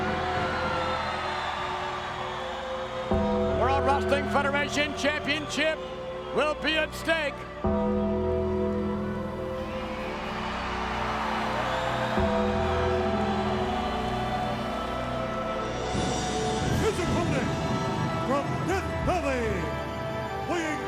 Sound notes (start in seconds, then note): 8.5 crowd cheering; 8.5 dramatic music